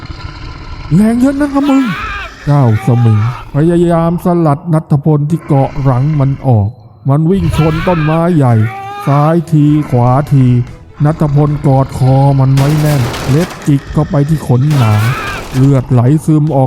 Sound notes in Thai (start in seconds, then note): 8.4 เสียงกรีดร้อง